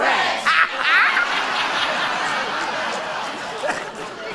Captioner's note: laughter